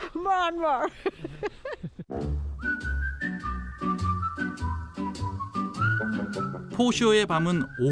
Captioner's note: laugh